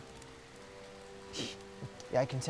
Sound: scoff

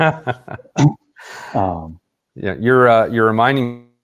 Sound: laughs

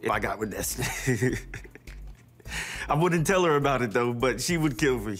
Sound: laughs

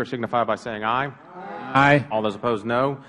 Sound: chorus of ayes

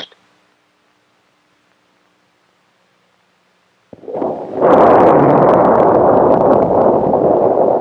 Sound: sound of Engines Firing

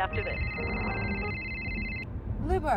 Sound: phone rings

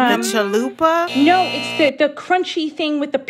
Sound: soundbite of buzzer

